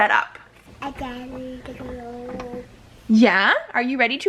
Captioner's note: babbling